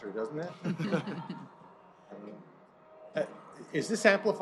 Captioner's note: laughter